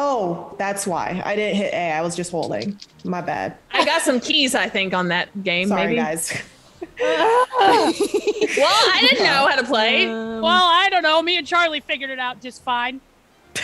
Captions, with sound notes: >> That's why I didn't hit A, I was just holding my bad. >> I got some keys I think on that game maybe. >> Sorry guys. >> [LAUGH] Well I didn't know how to play. >> Well, I don't know me and Charlie figured it out just fine.